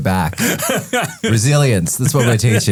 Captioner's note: both laughing